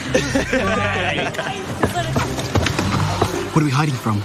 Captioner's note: Râsete